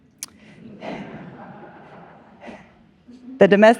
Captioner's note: audience laughs